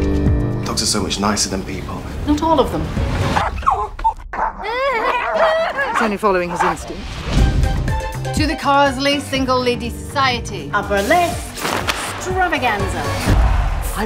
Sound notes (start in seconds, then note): 4.3 dog barking